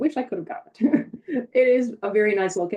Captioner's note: chuckles